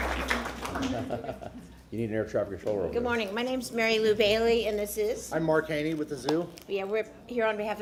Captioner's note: applause